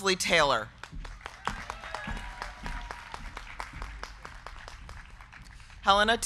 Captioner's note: crowd clapping; crowd cheering